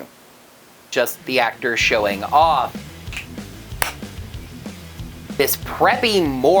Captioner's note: snaps; claps